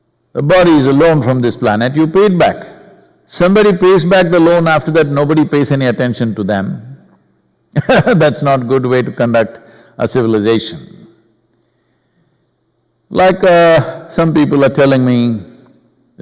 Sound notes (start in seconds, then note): 7.7 laughs